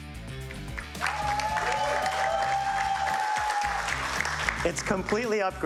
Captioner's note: audience cheers